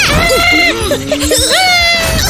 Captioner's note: screaming